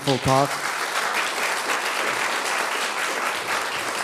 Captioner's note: applause